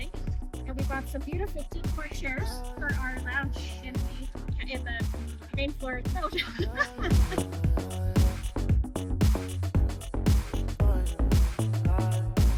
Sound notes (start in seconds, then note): 8.8 laughing